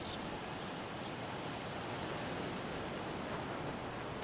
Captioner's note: waves whooshing